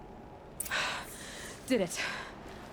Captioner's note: sigh